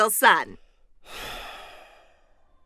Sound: sigh

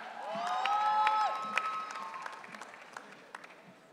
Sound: audience cheering

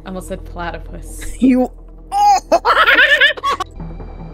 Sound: monkey noises

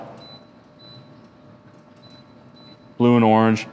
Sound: firebox beeping

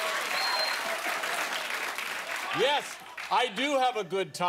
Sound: applause

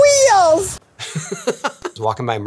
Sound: Tony laughing

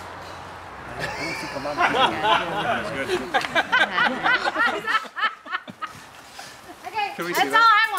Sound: laughter

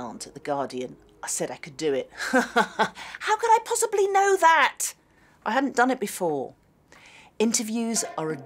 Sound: laughs

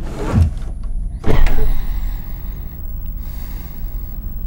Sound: breathing heavily

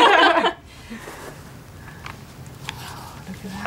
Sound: women laugh

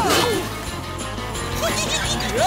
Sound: giggling

